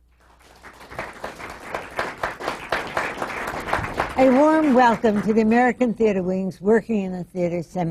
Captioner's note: applause